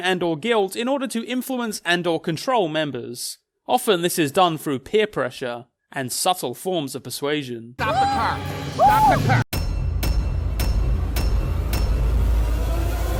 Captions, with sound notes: and/or guilt in order to influence and/or control members. Often this is done through peer pressure and subtle forms of persuasion. - Stop the car, stop the car. (Nora shrieking) (intense building music)